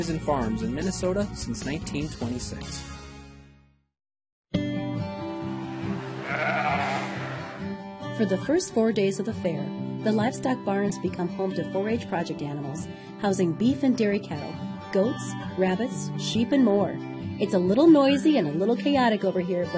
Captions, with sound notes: in Minnesota since 1926. (baa) - [Voiceover] For the first four days of the fair, the livestock barns become home to 4-H project animals, housing beef and dairy cattle, goats, rabbits, sheep and more. It's a little noisy and a little chaotic over here